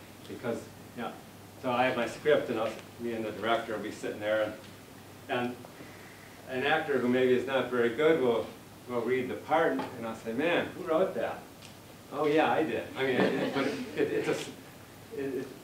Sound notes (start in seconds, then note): 13.0 laughter